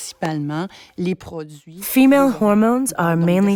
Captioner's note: speaking French with translation